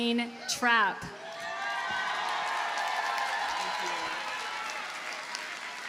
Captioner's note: audience cheers and applauds